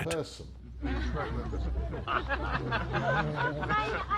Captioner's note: laughing; speaking softly